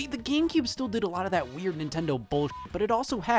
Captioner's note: beep